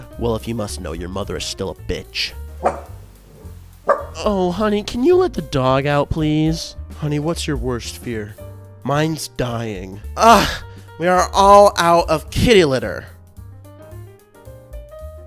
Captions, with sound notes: Well, if you must know, your mother is still a bitch. [dog barks] Oh honey, can you let the dog out, please? Honey, what's your worst fear? Mine's dying. Ugh, we are all out of kitty litter!